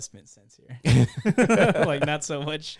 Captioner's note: laughing